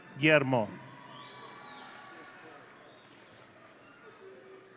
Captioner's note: audience cheering